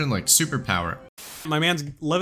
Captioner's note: static